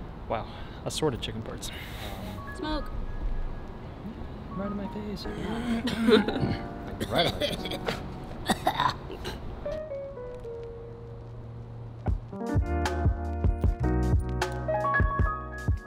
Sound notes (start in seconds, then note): 8.4 coughing; 12.6 relaxing music